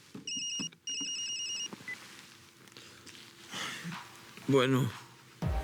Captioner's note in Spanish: Suena celular